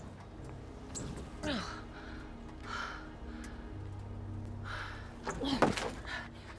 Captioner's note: gasping